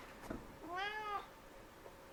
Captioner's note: meow